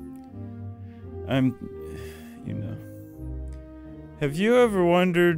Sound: sighs

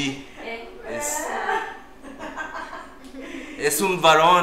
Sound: laughs

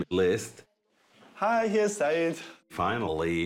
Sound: in German

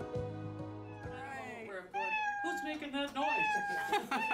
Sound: cat meowing

